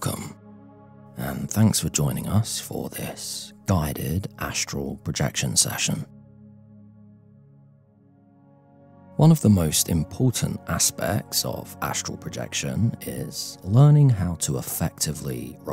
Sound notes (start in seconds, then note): 5.8 5s silence